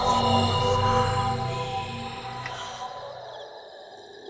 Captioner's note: ghost Voices Whispering Continues